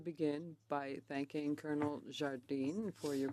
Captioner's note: speaking French